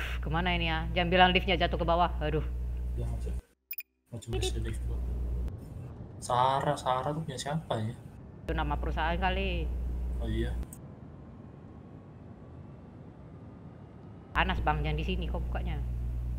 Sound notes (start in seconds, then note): 2.9 beep